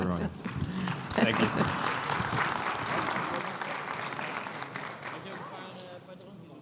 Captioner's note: crowd applauding